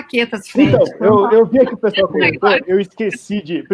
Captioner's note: multiple voices